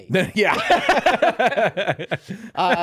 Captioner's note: laughing